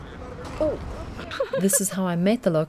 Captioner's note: giggles